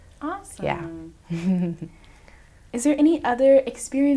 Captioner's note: chuckles